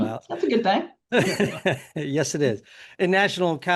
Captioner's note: laughs